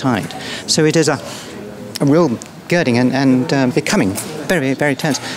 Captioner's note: deep breath